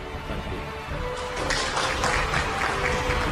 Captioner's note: clapping; dramatic music